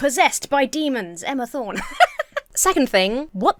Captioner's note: laughs